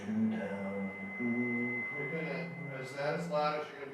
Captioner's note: vocalizing; steady beep